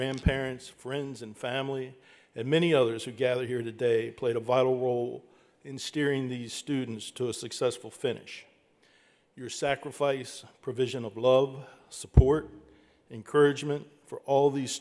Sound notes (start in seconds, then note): none